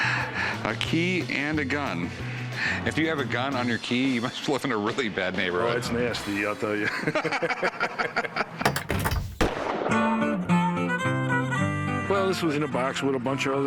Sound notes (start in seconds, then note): 6.8 laughter; 8.8 folk music playing; 9.3 gunshot